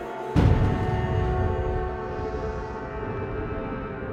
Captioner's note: thunder booms